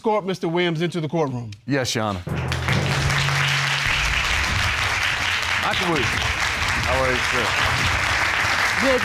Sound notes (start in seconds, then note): 2.3 applause